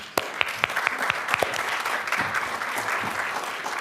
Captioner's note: applause